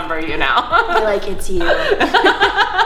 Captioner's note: laughing